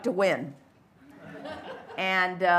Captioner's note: light laughter